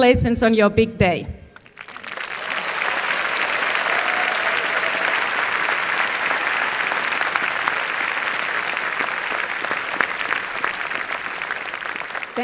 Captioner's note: applause